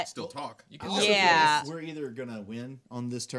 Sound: group murmuring

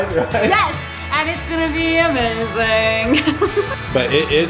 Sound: laughs

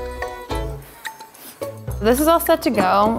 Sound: blowing

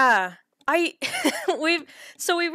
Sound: laughter

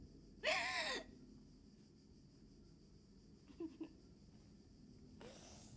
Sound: woman crying, sniffling

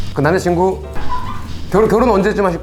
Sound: laughing

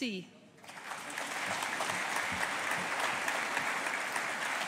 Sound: audience applauding

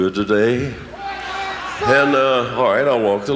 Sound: audience cheering

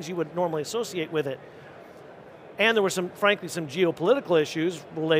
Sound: none

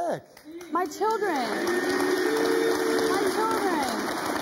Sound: audience jeering; audience applauding

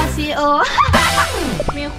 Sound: laughs

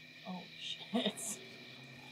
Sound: laughs

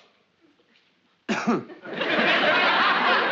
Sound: coughing

